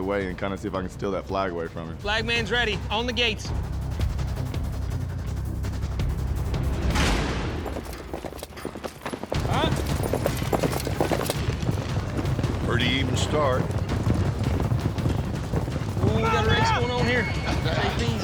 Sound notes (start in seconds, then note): 3.0 suspense music; 6.3 gates clank open; 7.5 fast hoofbeats; 13.8 hoofbeats